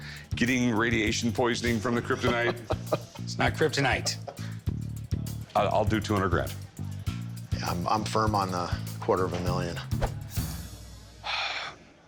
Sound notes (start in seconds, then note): 2.0 chuckling; 11.2 sighs